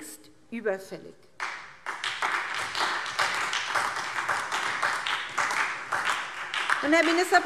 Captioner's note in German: Beifall